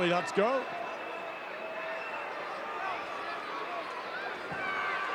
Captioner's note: audience cheering